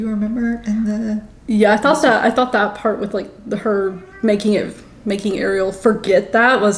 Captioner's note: meow